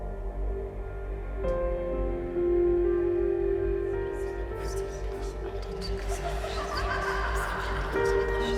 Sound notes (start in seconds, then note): 0.0 gentle music; 4.3 whispers; 5.9 woman laughs